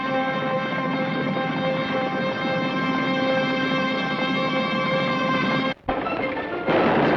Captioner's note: dramatic orchestral music; hooves thunder; guns fire